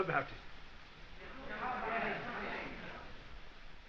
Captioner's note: students urging